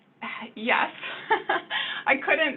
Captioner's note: laughs